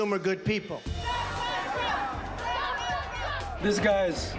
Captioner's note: all chanting